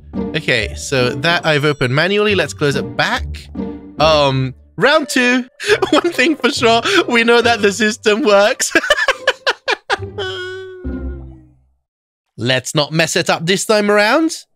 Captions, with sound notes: OK, so that I've opened manually, let's close it back. Um. Round two! One thing for sure, we know that the system works. *chuckles* *cries* Let's not mess it up this time around.